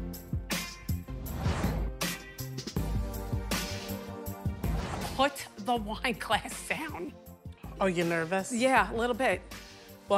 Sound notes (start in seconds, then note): 4.6 air whooshing